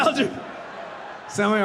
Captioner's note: audience laughing